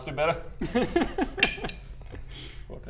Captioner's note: cheeky giggle